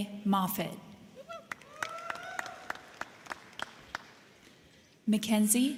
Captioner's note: crowd cheering; crowd clapping